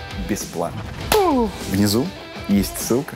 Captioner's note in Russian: хлопает в ладоши